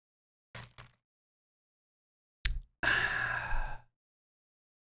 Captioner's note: sighs